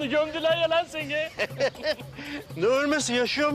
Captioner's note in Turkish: Gülme sesi